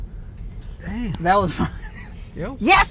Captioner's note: laughs